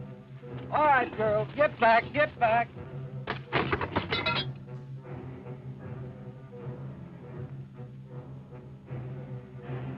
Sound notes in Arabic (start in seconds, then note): 2.8 صوت دوي الإبريق; 2.8 صوت قعقعة الكرسي